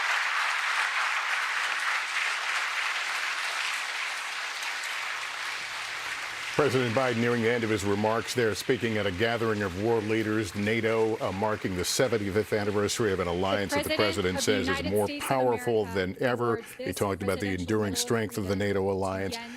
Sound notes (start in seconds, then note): 6.1 applause